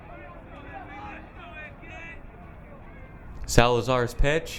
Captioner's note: crowd members yelling